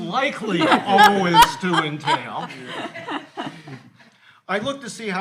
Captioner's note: all laughing